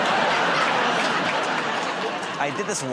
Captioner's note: laughter